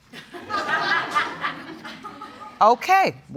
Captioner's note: audience laughing